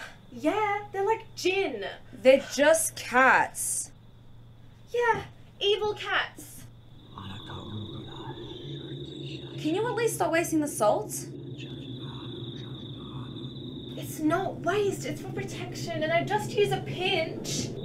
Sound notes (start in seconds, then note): 7.5 chants in babylonian; 12.1 chants in babylonian